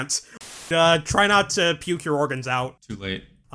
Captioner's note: static